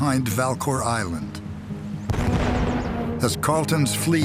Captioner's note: cannonfire